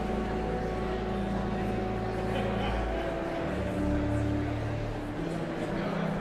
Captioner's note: joyful organ music continues; audience chattering continues